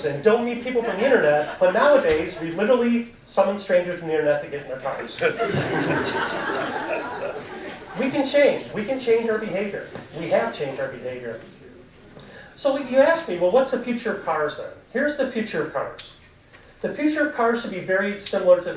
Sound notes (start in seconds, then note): 4.9 audience laughing